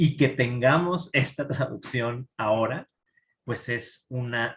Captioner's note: speaking in Spanish